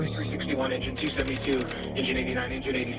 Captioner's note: radio